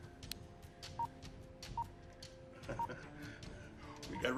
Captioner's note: pinging; laughs